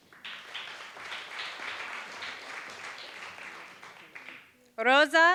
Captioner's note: applause